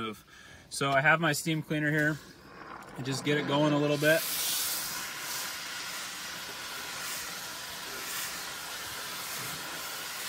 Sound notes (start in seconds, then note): 2.1 steamer gurgles; 5.6 steamer whooshes